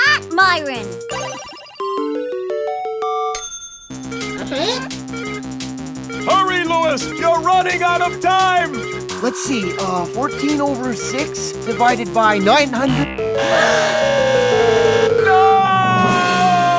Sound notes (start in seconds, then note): 12.5 game buzzer blares